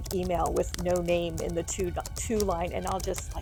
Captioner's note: keyboard keys tapping